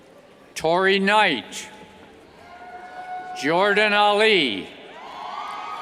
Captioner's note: cheers